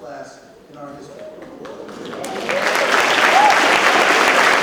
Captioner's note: audience claps